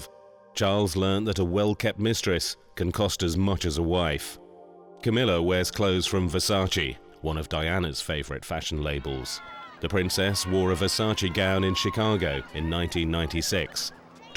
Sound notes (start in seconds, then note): 8.8 crowd cheering